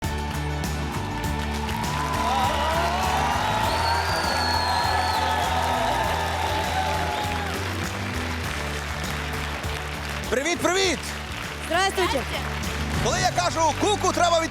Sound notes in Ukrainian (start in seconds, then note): 0.0 оплески